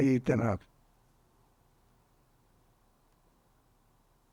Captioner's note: pauses 8 seconds